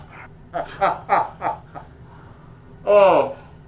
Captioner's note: Janus laughs